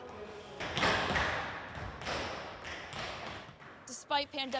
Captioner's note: tap shoes clacking